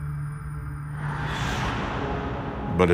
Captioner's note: swooshing